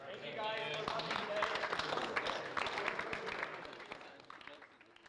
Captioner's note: applause